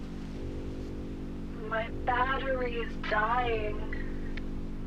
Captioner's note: woman speaking slowly